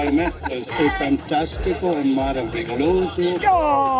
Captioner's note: in Portuguese